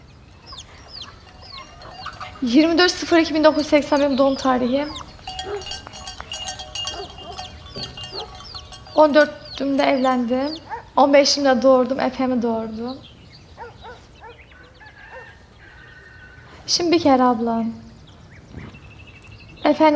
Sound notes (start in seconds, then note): 13.5 dog barking; 14.6 rooster crows